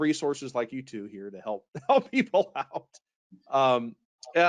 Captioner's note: laughs